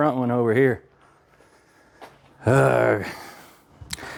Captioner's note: sighs